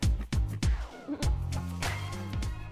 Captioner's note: chuckle